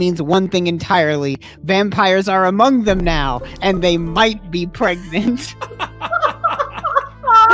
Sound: laughter

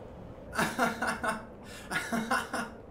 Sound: laughing

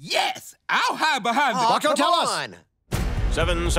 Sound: yelling

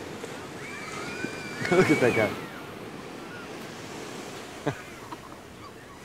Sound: laughs

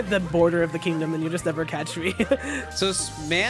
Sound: laughs

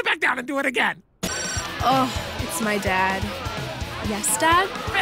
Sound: phone ringing

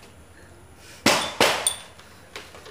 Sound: thudding

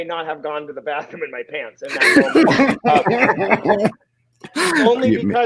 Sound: members laugh

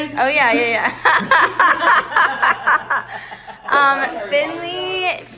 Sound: laughing

